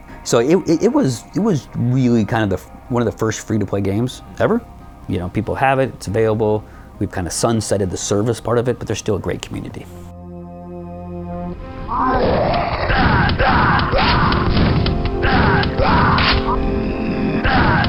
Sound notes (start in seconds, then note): 11.8 growling; 12.9 shouting